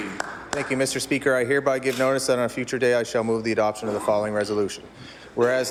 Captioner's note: applause